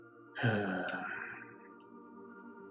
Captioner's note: sighs